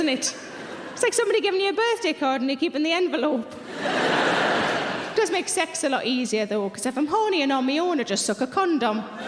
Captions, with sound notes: It's like somebody giving you a birthday card and you keeping the envelope. (audience laughing) It does make sex a lot easier though because if I'm horny and on my own, I just suck a condom.